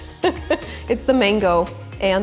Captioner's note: laughs